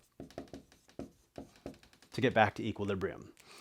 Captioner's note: marker scratching